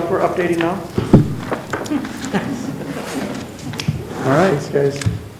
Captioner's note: chuckles